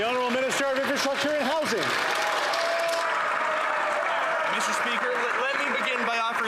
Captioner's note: some Applause